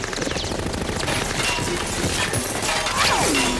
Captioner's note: gunfire